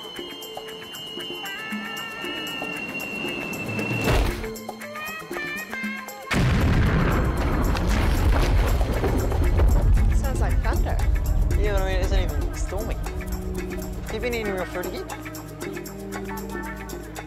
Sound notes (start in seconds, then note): 0.3 rocket falling; 6.3 explosion